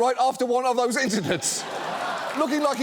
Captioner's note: audience applauds